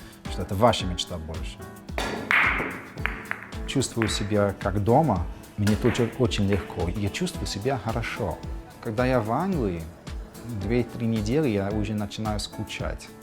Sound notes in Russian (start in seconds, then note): 1.9 звучит удар шара